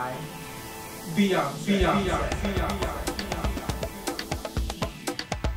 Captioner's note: soundbite of archived recording